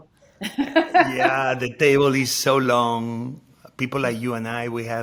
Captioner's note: Padma laughing